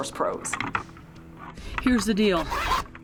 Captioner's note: antlers rattling